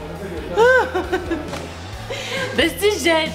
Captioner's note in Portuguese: risadas